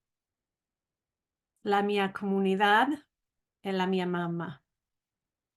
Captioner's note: said in Spanish